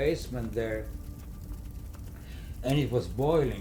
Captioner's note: crackling fire